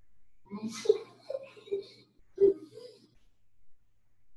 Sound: child laughs

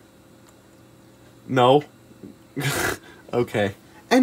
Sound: laughs

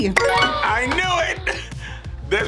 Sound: gasps

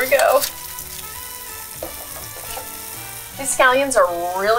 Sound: waffle iron sizzling

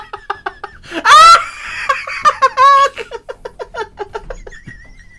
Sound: screaming Laughter

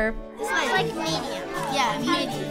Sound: students chattering

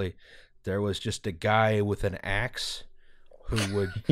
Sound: laughter

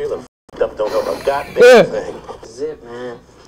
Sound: Larenz chuckles

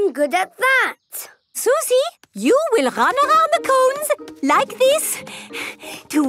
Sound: panting

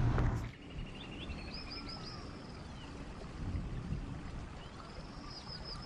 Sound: birds and insects chirping

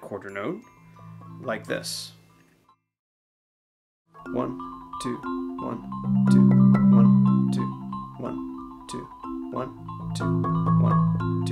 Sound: counting

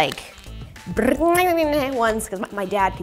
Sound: mimics card shuffling

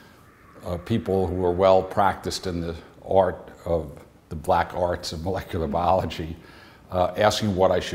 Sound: chuckle

